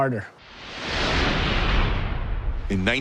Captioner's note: intense whooshing